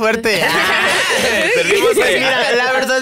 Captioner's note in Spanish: Risas